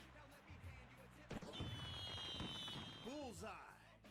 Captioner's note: fireworks popping